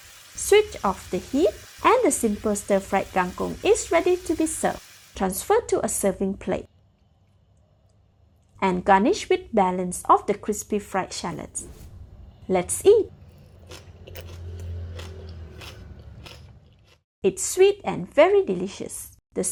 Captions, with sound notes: Switch off the heat, and the Simple Stir Fry Kangkung is ready to be served. Transfer to a serving plate, and garnish with the balance of the crispy fried shallots. Let’s eat! *crunching sounds* It’s sweet and very delicious.